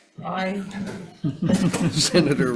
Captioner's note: senators laughs